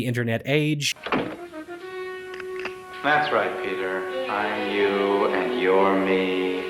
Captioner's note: click